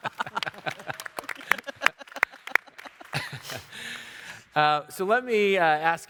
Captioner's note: panelists laughing; audience clapping